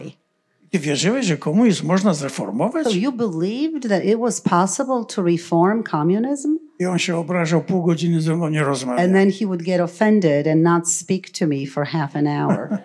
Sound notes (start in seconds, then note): 0.3 foreign language; 7.0 foreign language; 12.4 laughter